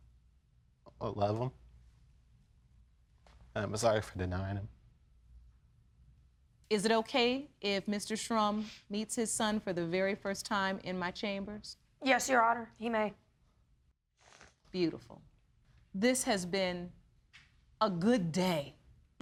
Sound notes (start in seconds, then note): none